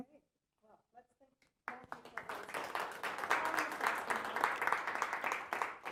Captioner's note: applause